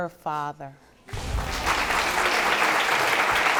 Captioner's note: all applauding